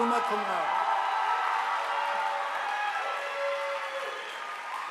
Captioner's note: audience applauding